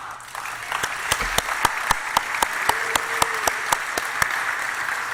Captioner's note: applause